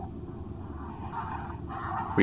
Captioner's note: Leota sobs